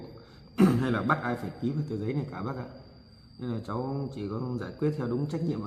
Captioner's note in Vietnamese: hắng giọng